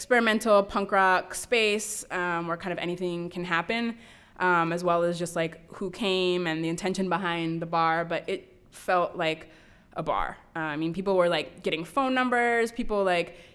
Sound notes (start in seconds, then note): none